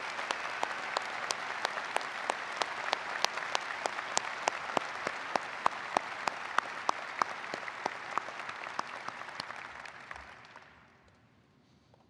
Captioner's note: applause